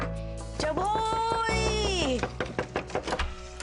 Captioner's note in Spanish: Golpes en la puerta